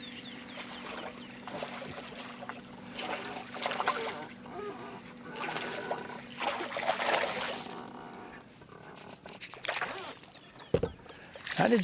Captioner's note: splashing